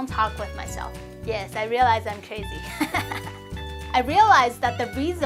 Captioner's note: chuckles